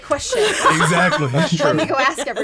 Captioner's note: group laughs